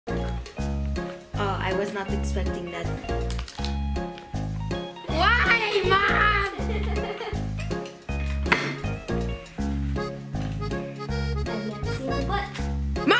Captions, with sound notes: - Uh, I was not expecting that. (upbeat music) Why, Mom?! (giggling) (upbeat music) - I have yet to see what.